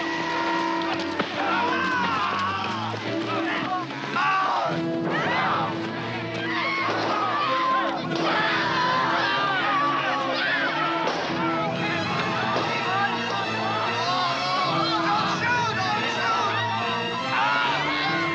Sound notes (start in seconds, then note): 0.7 shouting; 6.4 screaming; 17.2 screaming